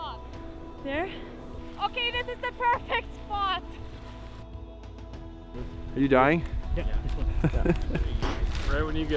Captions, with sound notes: There? Okay, this is the perfect spot. Are you dying? Yeah. *laughs*